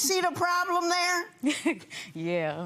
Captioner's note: chuckling